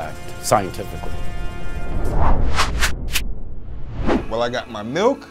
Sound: wooshing sounds

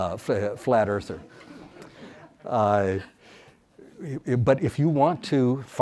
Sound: audience laughs

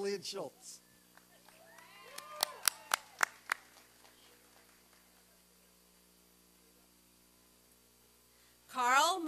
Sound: applause and cheering

